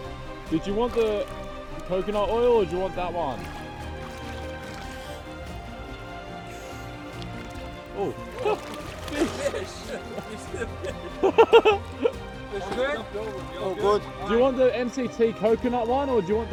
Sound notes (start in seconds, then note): 11.6 laughter